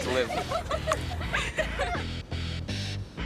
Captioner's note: laughter